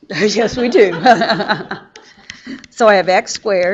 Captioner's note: everyone laughs